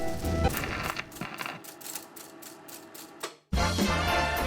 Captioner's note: sound of Super 8 film projector ending